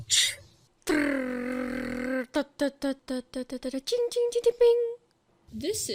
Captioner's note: noises with her mouth again